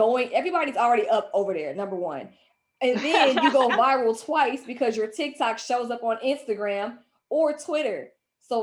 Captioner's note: laughs